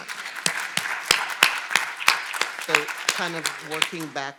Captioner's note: audience applauding